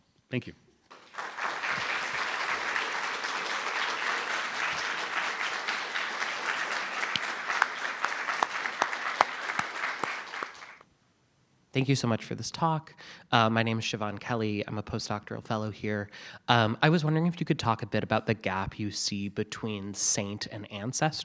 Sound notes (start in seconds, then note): 0.9 applause